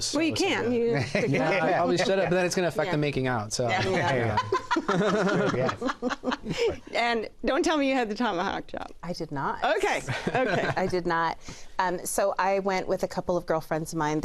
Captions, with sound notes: -Well, you can. -I probably should have. But then it's gonna affect the making out, so... you know. -[ Laughs ] -Yeah. -And don't tell me you had the tomahawk chop. -I did not. I did not. -Okay, okay. -So, I went with a couple of girlfriends of mine.